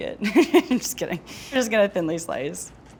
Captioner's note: laughs